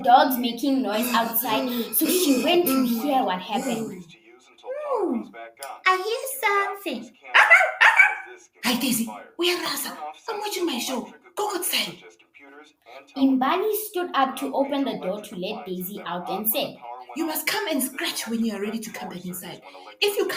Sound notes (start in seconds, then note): 7.3 she barks